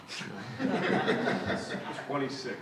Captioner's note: laughter